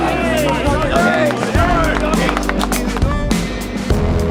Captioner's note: team claps